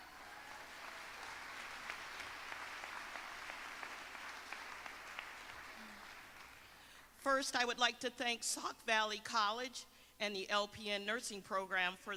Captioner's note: applause